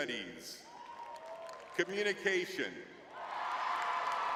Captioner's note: audience cheering; audience cheering